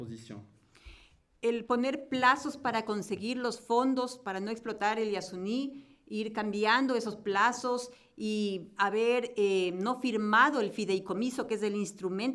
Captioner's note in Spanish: Español